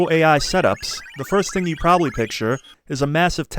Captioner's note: computer sounds